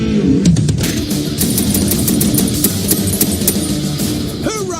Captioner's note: heavy metal music; machine gun cracking